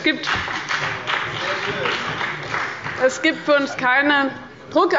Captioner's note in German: Beifall bei dem BÜNDNIS 90/DIE GRÜNEN und der CDU